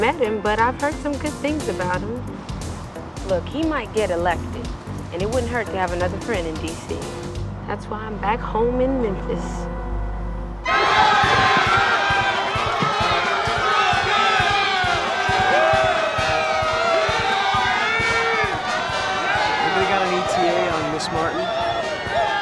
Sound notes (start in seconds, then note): 10.7 crowd cheers, band plays patriotic music